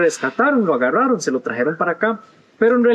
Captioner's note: in Spanish